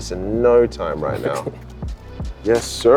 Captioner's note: laughs